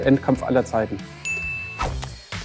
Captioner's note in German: Klingeln